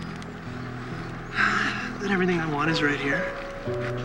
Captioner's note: sighs